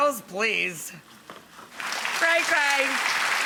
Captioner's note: audience applauds